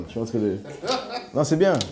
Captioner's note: laughs